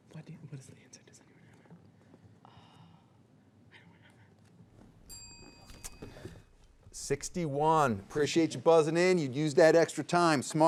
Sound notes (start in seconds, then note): 5.0 bell rings